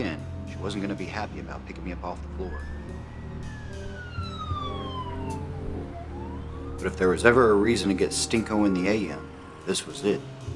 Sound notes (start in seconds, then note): 2.2 siren